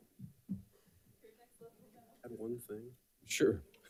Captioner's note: participants chattering off microphone